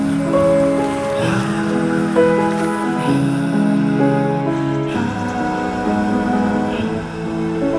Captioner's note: birds chirping; gentle music